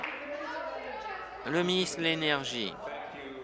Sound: applause

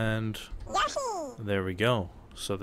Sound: Yoshi noise

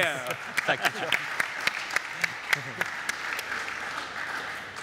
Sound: audience applaud

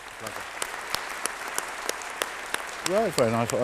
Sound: sound of applause

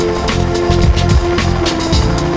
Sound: explosive dropped

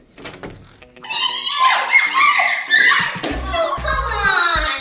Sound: kids cheering

